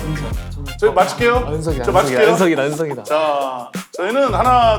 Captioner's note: voice full of confidence